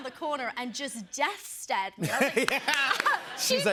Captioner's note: laughter